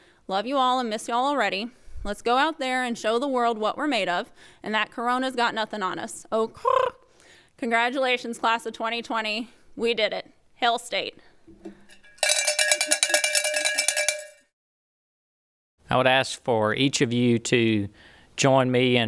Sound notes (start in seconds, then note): 12.0 cowbell rings